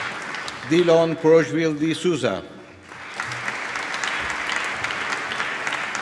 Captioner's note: applause